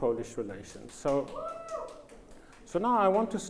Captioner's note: audience cheers